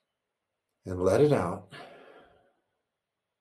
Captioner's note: exhales